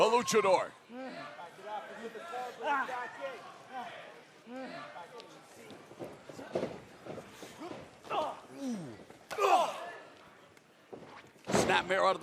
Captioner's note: crowd chatter